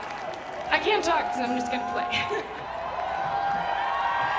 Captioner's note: Risos